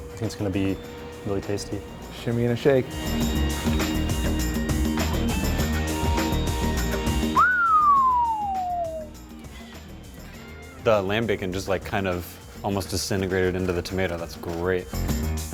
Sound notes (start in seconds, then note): 7.7 whistles